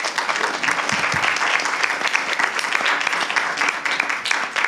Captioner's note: applause